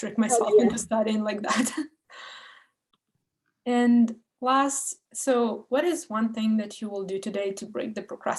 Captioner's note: laughs